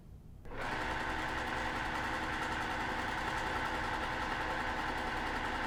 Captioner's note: sewing machine whirring